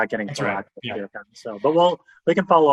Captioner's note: group chattering